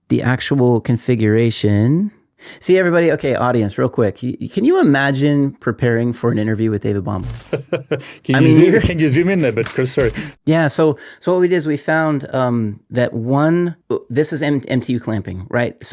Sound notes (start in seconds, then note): 7.2 chuckles